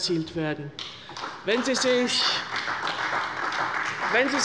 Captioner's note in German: Beifall bei der CDU